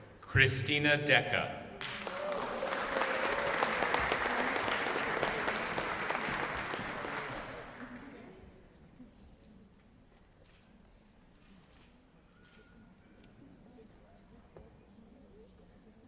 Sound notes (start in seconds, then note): 1.8 applause